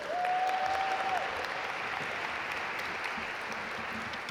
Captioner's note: audience applaud